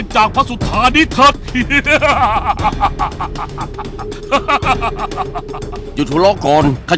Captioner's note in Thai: หัวเราะ